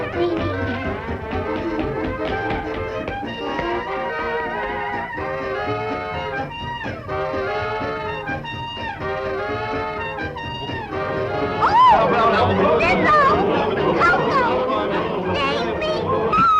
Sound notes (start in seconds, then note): 4.1 upbeat jazz music continues; 10.4 attackers chattering; 11.6 Betty screams